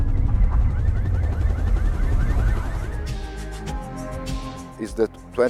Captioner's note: alarm blaring